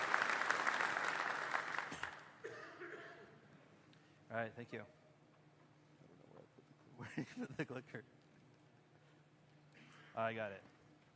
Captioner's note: applause